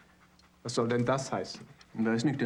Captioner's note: speaking german